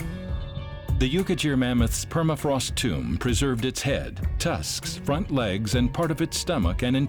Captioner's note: none